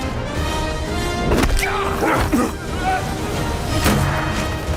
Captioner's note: grunting